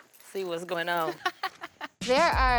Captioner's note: laughs